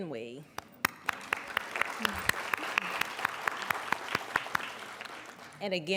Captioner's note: applauding